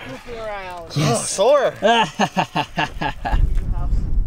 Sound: laughs evilly

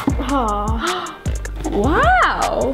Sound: gasping

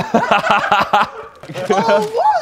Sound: Sidemen laughing

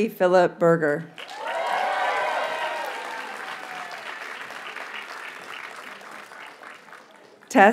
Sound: audience cheers and applauds

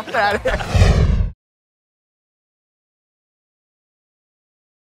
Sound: laughing; electronic whoosh

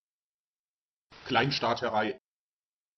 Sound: fast Pronunciation

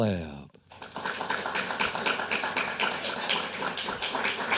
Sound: audience applauding

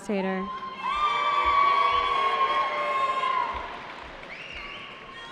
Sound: cheering

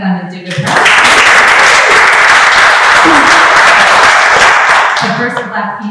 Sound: applause

